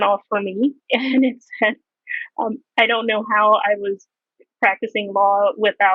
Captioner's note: chuckles